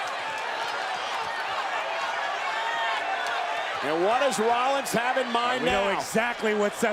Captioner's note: applause